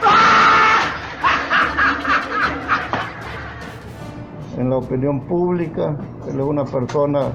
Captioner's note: laughs